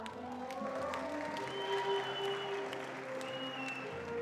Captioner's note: attendees applauding